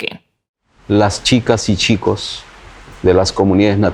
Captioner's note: speaking spanish